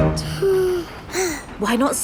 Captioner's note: both sigh